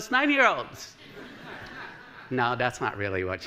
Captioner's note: laughter